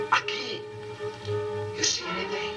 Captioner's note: speaking spanish